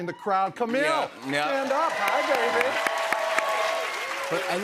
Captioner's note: cheers and applause